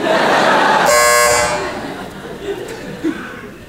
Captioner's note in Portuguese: campainha